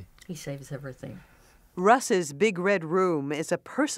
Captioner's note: none